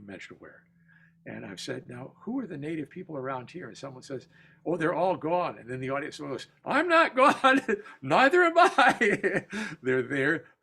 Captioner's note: laughter